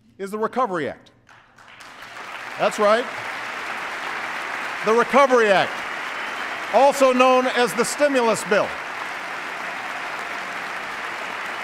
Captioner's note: applause